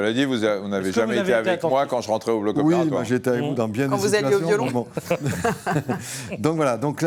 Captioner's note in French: rires